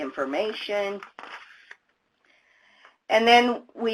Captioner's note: papers rustling